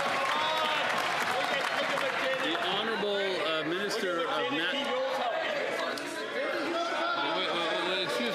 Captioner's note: some Applause